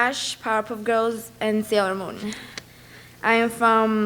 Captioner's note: speaks a foreign language